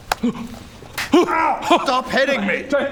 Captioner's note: slap!; thud!